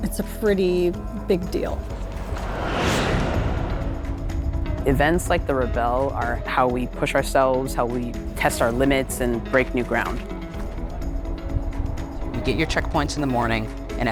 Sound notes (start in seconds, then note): 1.6 truck shoots; 1.6 whoosh sound